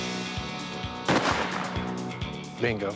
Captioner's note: gunshot